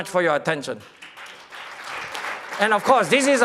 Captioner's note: applause